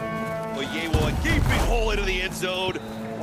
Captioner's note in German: Kommentatorenstimme auf Englisch